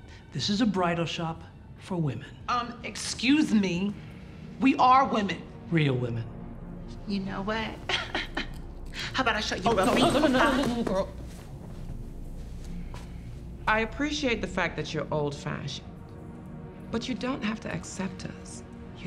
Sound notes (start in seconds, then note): 7.9 laughs